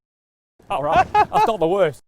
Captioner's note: laughing